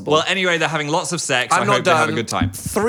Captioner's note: none